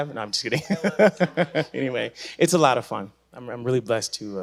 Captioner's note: laughing